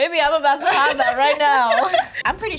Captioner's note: laughs